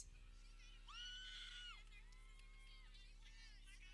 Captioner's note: people cheering